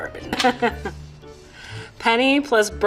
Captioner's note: chuckling